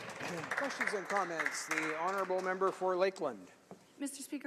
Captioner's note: some applause